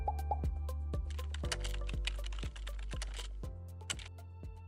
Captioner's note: lighthearted music; keyboard clicking